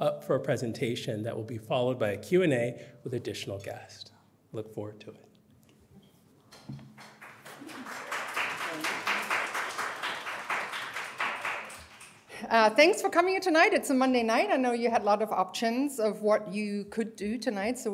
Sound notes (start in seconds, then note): 6.8 applause